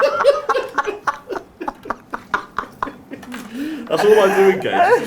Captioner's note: laughs